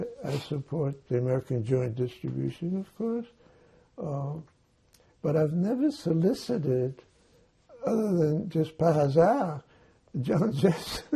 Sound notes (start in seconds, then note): 9.0 non-english